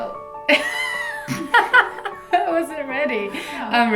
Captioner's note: laughing